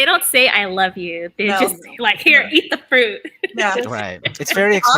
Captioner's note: laughs